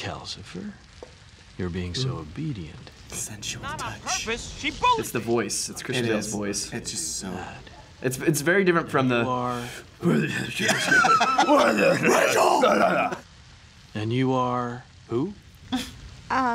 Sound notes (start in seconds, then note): 0.2 howl; 11.4 growls; 14.3 howl